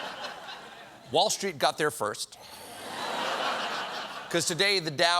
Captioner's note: laughter